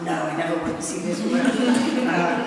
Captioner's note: laughter